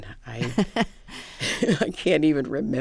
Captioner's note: laughter